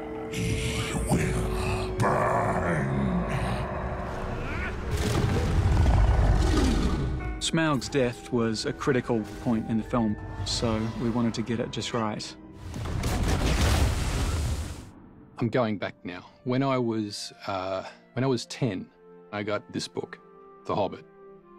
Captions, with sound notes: He will burn. [SNARLING] Smaug's death was a critical point in the film, so we wanted to get it just right. I'm going back now. When I was, uh.... When I was 10, I got this book, The Hobbit.